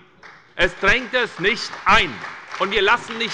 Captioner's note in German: Beifall bei der SPD und der CDU